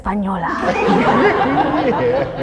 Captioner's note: laughs; audience laughs